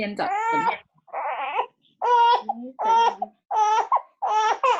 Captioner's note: baby noises